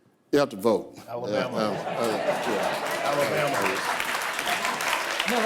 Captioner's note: audience applause